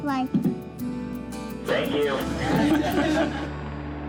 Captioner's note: voice On Radio; group laughs